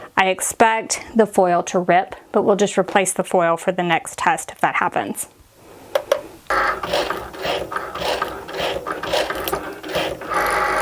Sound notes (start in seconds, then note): 6.4 Cricut whirs